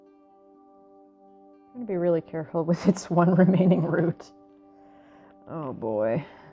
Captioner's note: laugh